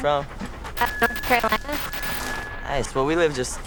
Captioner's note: buzzing